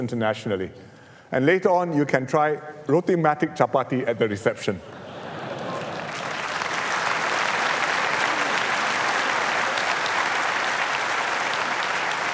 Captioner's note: laughter and Applause